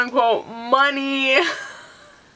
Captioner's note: laughing